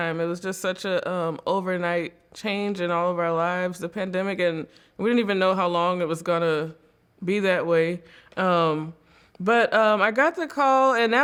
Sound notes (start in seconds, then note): none